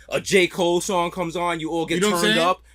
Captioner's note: none